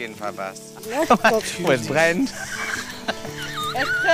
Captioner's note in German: Er lacht